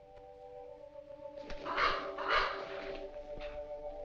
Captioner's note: bird cawing